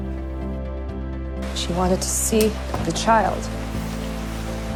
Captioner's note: voiceover